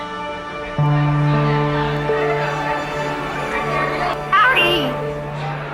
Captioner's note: gentle music; people chattering